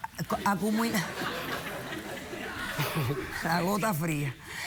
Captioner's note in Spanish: risas